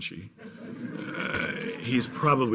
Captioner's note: laughing